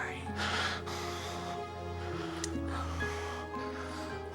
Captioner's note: heavy breathing